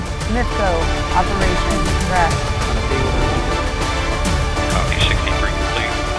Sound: dramatic music continues; operators clamoring

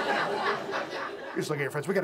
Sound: audience laughs

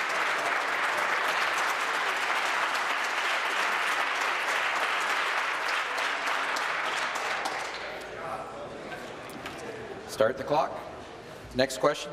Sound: applause

